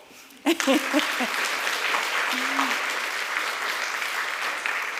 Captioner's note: applause